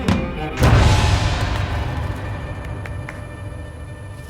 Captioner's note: birds flapping